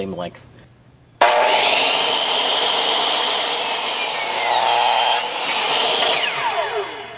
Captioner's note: power saw